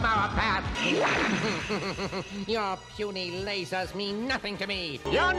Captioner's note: snickering